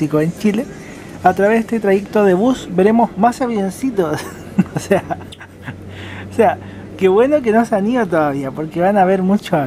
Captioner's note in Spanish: risas